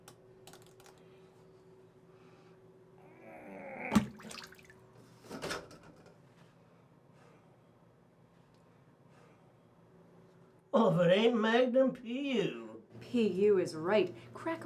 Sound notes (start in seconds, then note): 1.5 man grunting; 3.9 water splashing